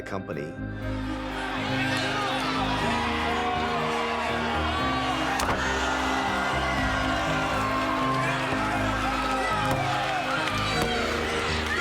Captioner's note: applause